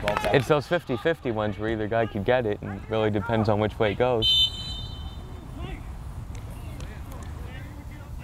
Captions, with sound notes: It's those 50, 50 ones, where either guy could get it and really depends on which way it goes. (whistle blows)